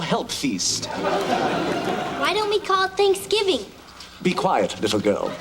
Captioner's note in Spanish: Risas